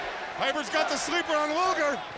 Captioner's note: crowd cheering